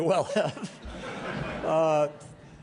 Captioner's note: laughter